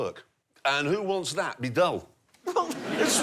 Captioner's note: laughter